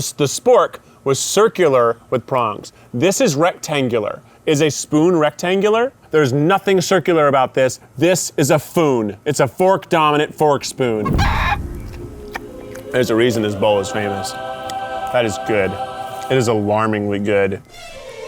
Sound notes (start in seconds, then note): 11.2 smacks food; 12.1 chicken bawks; 15.1 angelic harmonizing music